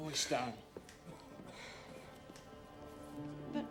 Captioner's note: breathing heavily